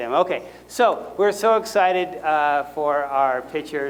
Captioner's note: none